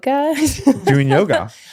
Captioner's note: laughing